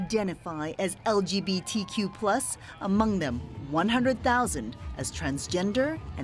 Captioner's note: cheering